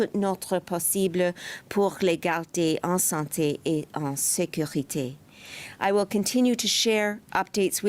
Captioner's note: speaking French